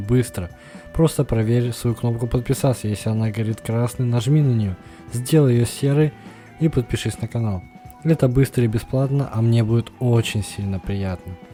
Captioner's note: тихо тихо тихо нееет